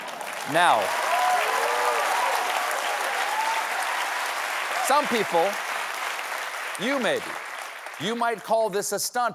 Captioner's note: applause